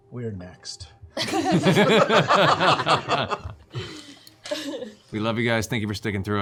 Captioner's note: laughter